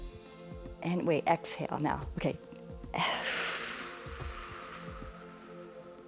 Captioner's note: exhales